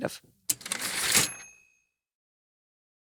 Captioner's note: typewriter ding